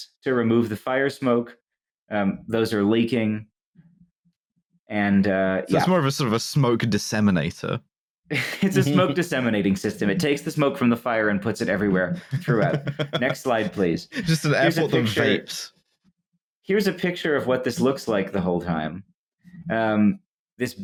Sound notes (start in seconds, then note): 11.7 chuckles